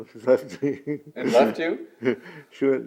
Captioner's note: laughs